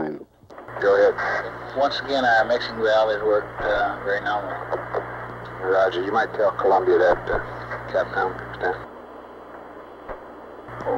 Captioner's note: mission Control Audio